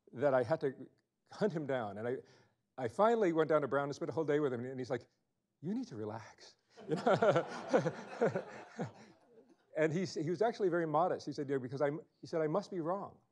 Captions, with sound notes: that I had to hunt him down. And I finally went down to Brown to spend the whole day with him and he's like, you need to relax. (laughing) And he was actually very modest. He said, I must be wrong.